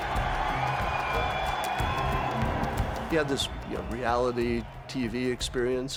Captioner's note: audience cheering